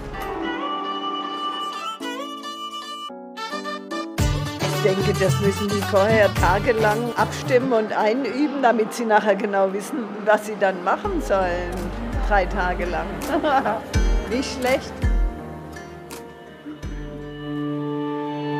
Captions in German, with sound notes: (Feierliche Musik) Ich denke, das müssen die vorher tagelang abstimmen und einüben, damit sie nachher genau wissen, was sie dann machen sollen. Drei Tage lang. (lachend:) Nicht schlecht. (Gespannte Klänge)